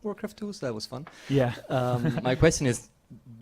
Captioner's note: laugh